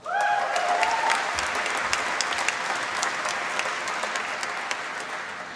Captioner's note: applause